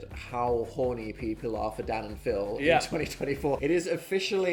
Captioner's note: none